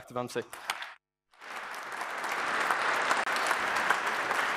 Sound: applause

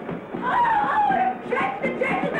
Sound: yelling

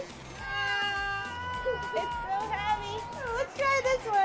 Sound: yelling

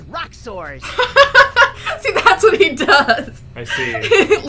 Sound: laughs

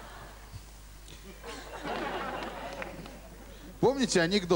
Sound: laugh

